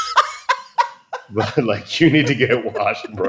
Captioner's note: laughter